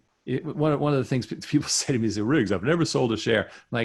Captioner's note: chuckles